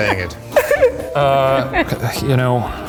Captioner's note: laughing